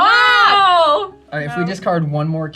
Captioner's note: group exclaims with excitement